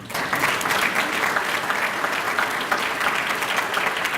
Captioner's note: applause